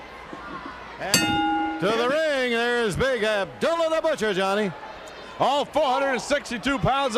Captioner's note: bell ringing